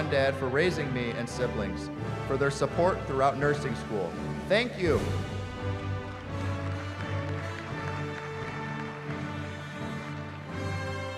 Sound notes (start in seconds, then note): 6.7 applause